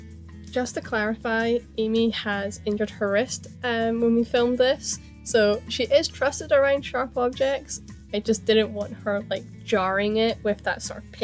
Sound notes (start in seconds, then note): 0.5 voiceover